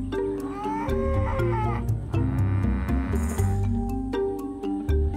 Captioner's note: animals chattering